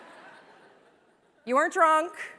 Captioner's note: laughter